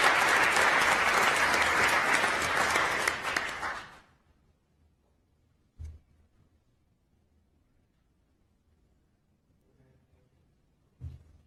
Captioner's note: applause